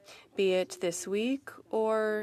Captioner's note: speaking French